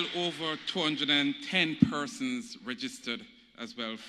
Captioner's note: applause